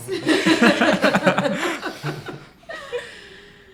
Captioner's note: laughs